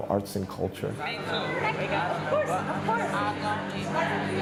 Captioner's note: people chatting